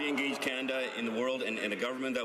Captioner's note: some applause